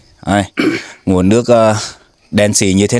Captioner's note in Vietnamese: hắng giọng